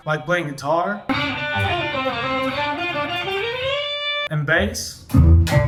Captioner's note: shredding